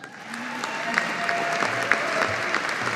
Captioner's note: audience applauding